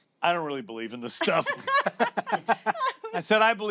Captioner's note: laughter